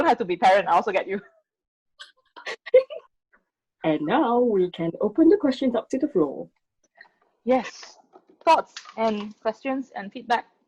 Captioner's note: laughter